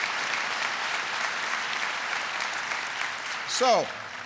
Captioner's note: applause